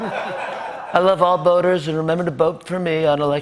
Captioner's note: laughter; As Trump